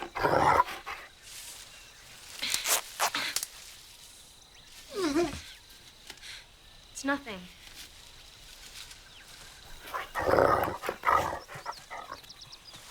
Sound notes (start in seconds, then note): 4.9 whimpering